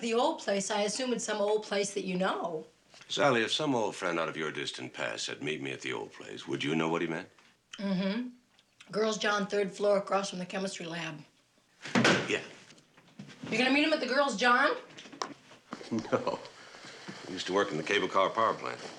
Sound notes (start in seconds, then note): 15.9 chuckling